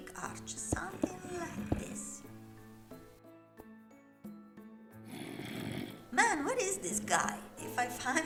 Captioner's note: Zombie groans